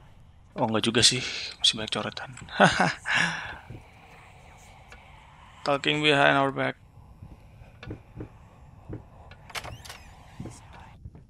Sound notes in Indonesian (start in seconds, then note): 2.4 ketawa; 9.0 suara bisikan